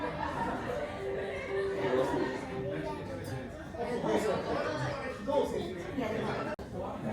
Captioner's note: laughs